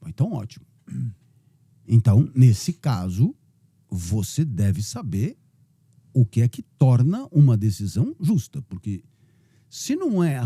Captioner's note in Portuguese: pigarreando